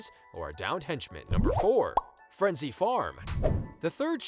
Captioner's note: popping